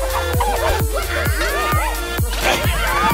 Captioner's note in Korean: 레코드 판 돌리는 소리